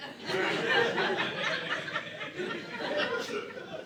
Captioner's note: audience laughing